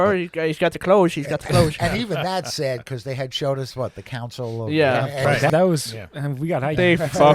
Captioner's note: laughter